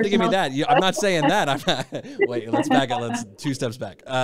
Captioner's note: laughs